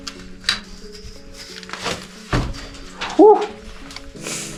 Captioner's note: scuffling; clattering; sniffs